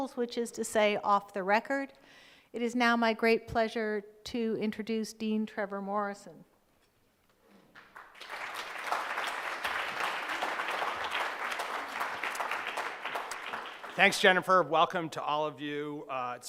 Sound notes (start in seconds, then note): 7.7 audience claps